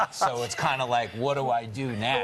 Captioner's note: laughter